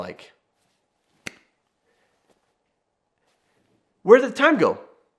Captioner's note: Jonathan snaps